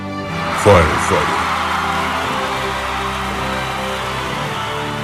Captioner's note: cheers